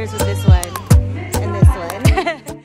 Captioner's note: laughs